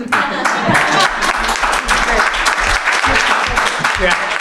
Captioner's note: laughing; applause